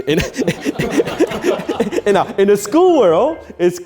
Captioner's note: laughing